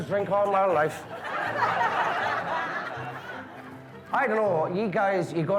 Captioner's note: guests laughing